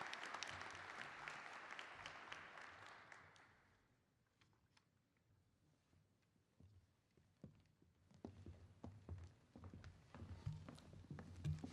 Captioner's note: applause